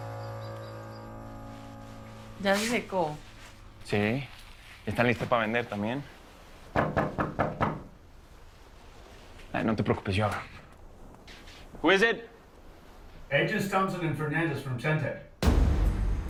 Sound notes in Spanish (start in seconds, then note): 6.8 Toques en la puerta